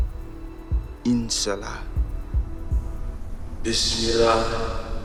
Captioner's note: speaking in Arabic